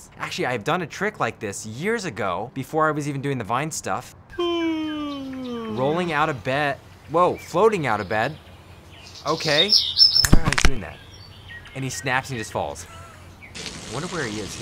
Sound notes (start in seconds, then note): 4.4 yawning